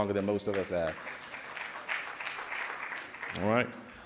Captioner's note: clapping